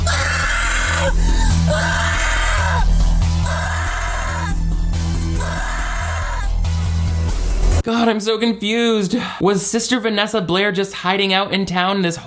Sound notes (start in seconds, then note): 0.0 actress screams; 0.0 intense instrumental music; 7.0 blood squishing